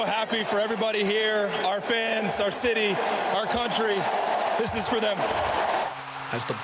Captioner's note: cheers